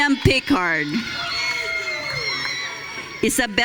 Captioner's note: audience cheering